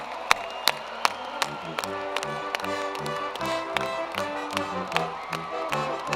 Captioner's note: cheers and applause